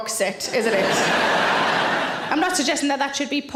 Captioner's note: audience laughing